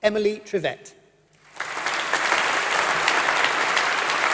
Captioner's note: applause